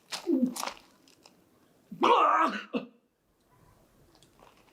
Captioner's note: Greg choking up a cough